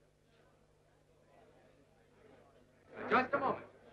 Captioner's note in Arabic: الجمهور يتحادث بخفة